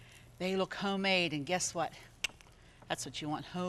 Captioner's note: tongue clicks